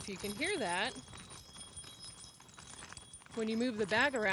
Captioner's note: metal jangling